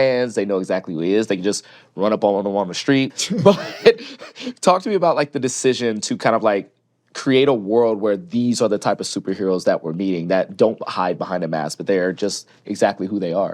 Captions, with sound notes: they know exactly who he is, they can just run up on him on the street. But... (LAUGHS) Talk to me about, like, the decision to kind of, like, create a world where these are the type of superheroes that we're meeting that don't hide behind a mask, but they are just exactly who they are.